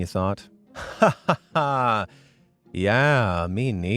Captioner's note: person laughing